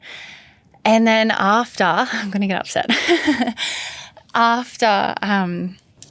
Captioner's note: laughs